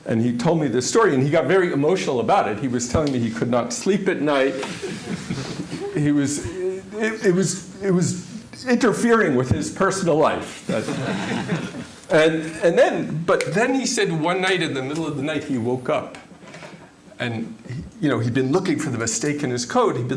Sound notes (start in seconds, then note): 4.6 laughter; 10.7 laughter